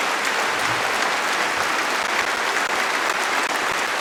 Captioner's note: applause